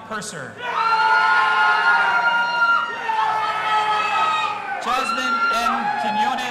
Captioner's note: audience applauding and cheering